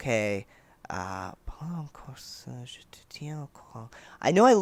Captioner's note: badly accented French mumbling